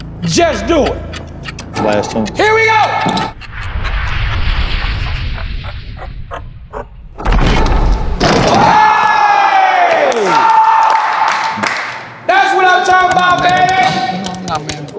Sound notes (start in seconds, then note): 5.1 dramatic music; 8.4 all cheering